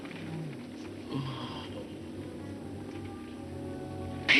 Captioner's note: groaning